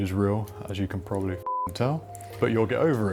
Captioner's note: beep